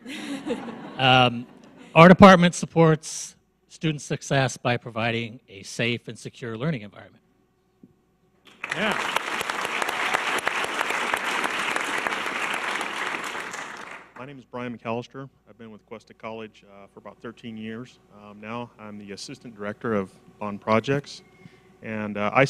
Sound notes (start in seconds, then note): 0.0 audience laughs; 8.5 audience applause